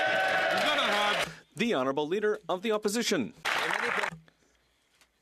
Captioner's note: some Applause